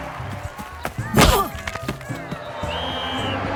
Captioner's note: grunts